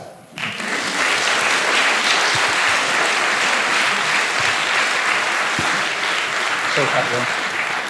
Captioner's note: applause